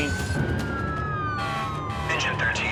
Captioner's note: siren wailing